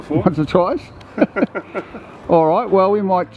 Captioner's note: both men laugh